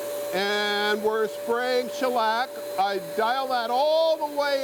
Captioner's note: machine turning on loudly; yelling